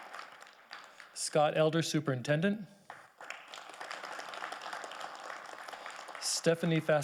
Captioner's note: audience applauding